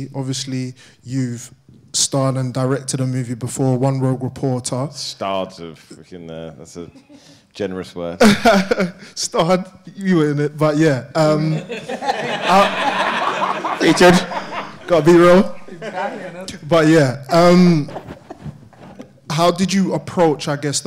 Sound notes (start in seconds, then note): 11.5 audience laughing